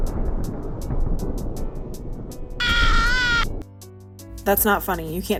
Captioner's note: lightning strikes, hitting the ogre